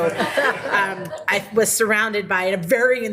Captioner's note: people laughing